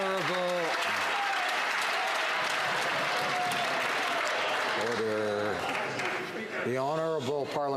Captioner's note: some Applause